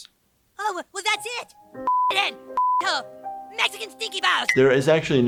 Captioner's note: beep